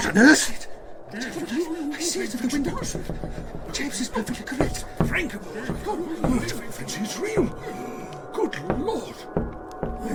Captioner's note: the men gasp and explaim